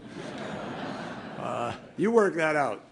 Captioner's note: laughter